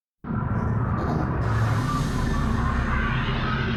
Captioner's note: ominous rumble